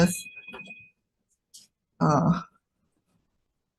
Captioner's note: phone chiming